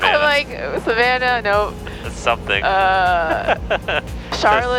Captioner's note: laughs